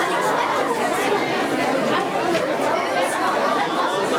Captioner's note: crowd chattering